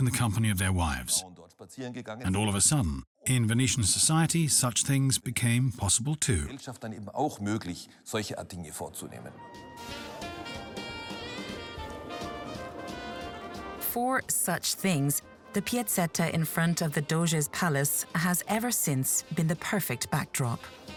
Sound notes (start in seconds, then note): 6.7 speaks in foreign language; 10.0 cheerful classical music